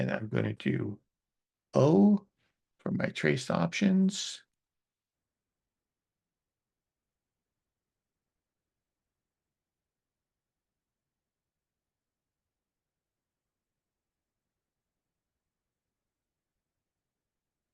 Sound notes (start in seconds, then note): 7.0 silence